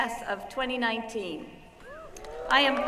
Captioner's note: whooping